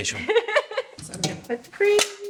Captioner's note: Tori laughs